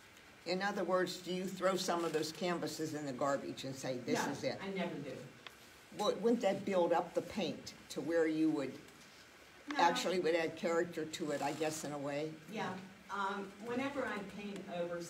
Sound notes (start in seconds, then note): none